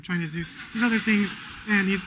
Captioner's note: laughter